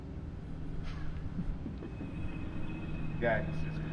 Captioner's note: faint chuckling